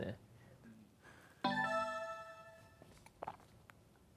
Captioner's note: electronic startup sound